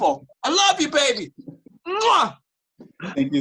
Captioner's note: lips smacking